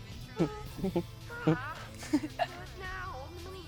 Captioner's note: Chase laughs; Georgia giggles